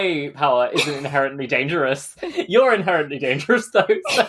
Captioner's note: laughing